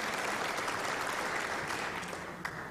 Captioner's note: applause